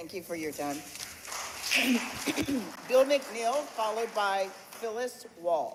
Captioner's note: applause